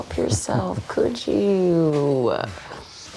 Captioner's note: Tommy chuckling